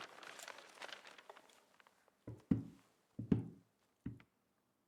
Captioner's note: newspaper ruffling